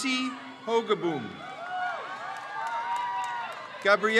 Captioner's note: crowd cheers